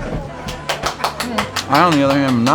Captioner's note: clapping